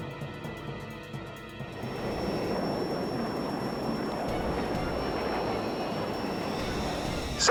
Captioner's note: suspenseful music; F-16 engine whining